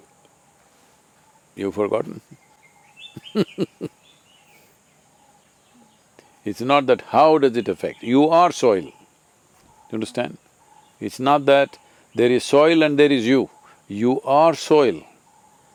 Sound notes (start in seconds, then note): 3.1 laughs